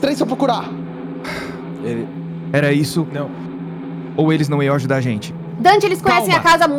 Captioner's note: sighs